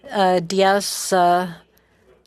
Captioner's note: speaking French